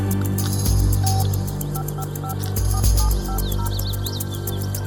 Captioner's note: phone beeping